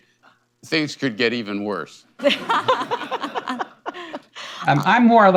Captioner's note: laughter